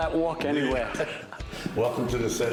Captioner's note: laughter